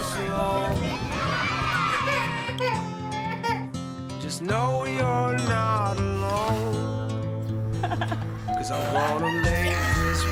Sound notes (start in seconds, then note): 1.3 baby crying; 7.7 laughter; 9.0 cheering